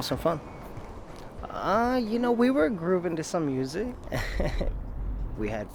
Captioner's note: laughing